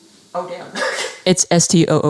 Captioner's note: laughs